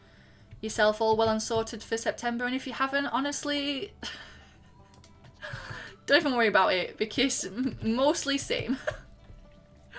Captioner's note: laughing